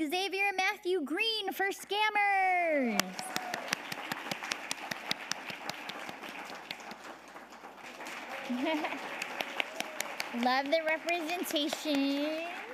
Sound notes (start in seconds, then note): 3.3 audience applauding; 8.8 audience applauding